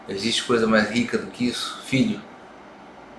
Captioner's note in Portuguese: none